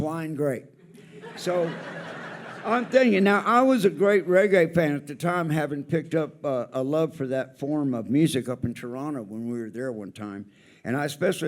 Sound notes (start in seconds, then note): 0.9 audience laughs